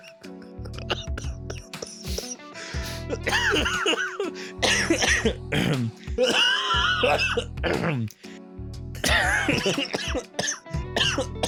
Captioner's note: laughing; coughing and misc throat clearing